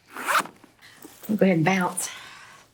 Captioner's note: zipper rasping